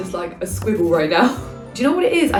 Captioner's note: pen scratches